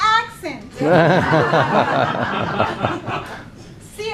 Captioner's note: laughing